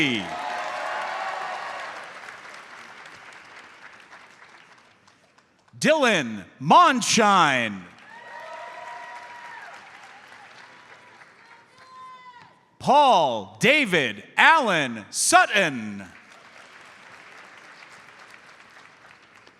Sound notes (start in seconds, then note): 0.0 audience cheers and applauds; 7.9 audience cheers and applauds; 15.8 audience applauds